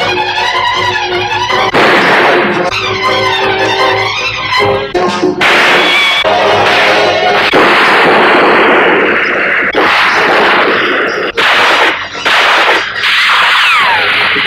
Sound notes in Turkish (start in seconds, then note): 1.7 Silah sesi; 5.4 Silah sesleri